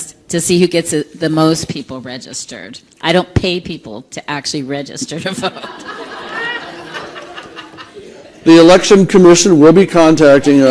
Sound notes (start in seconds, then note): 5.1 laughter